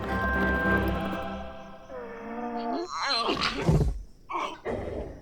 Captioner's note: groaning